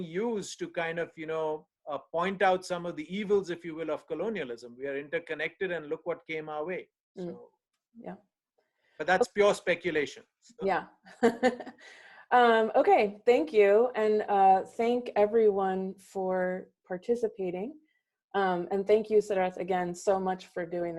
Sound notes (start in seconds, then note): 11.2 chuckles